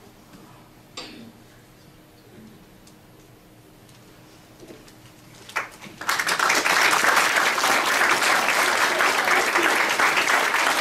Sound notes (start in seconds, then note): 5.5 audience applauds